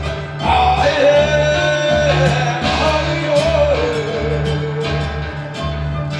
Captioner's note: humming